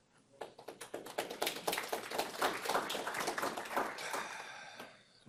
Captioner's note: applause